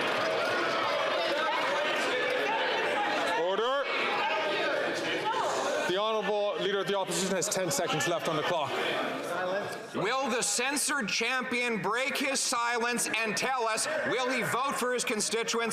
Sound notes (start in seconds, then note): 0.0 some Applause